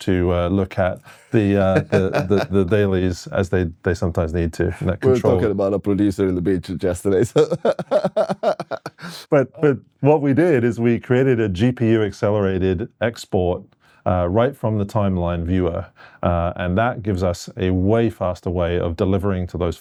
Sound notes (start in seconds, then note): 7.2 laughing